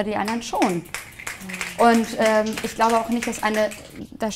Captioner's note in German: Schnipsen